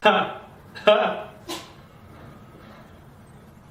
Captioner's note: sneeze